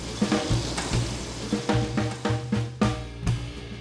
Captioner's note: upbeat music; steak sizzles